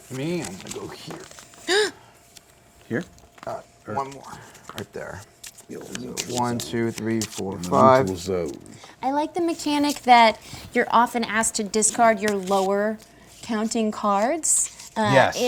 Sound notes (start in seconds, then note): 1.6 gasps